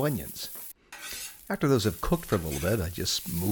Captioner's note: onions sizzle; turner scrapes